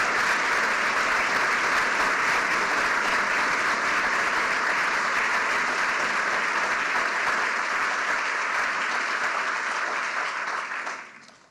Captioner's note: cheers and applause